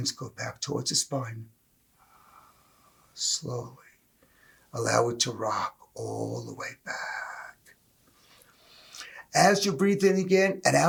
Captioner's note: exhale